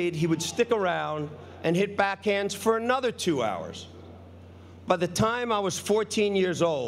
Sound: none

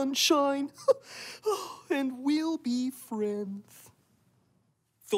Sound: laughs

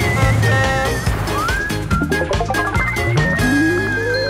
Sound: bright music; horn honking

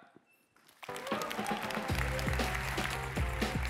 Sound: cheering, music playing

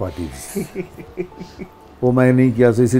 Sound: laughs

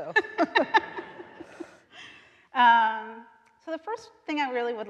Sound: both laughing

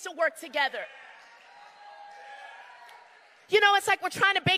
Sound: crowd cheering

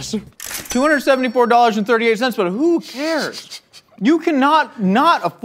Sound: snickers

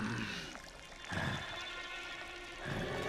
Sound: growling softly; growls

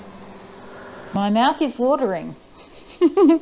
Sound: laughing

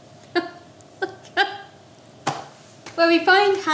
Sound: laughs

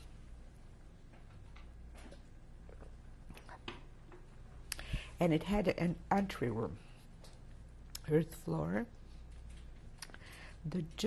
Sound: drinks

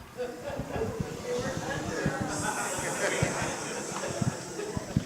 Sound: crowd murmuring

